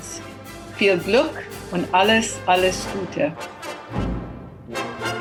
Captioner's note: speaking german